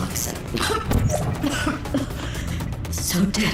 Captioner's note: computerized coughing